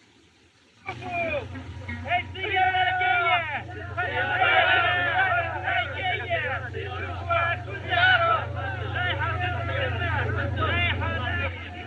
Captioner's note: commotion